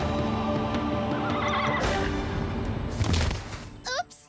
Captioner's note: whinnies